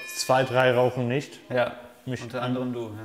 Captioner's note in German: Klingel